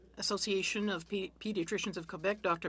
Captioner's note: speaking French